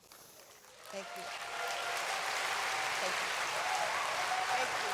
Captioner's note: applause